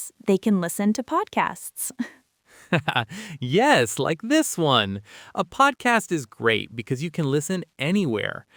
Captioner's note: laughs